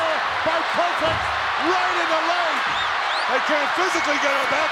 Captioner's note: crowd whistles